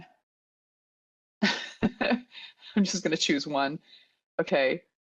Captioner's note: chuckles